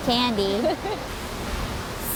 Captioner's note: laughter